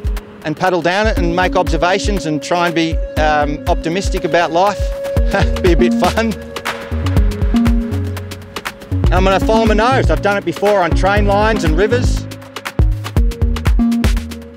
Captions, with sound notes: and paddle down it and make oberservations and try and be optimistic about life [chuckles] be a bit fun! And I'm gonna follow my nose. I've done it before on train lines and rivers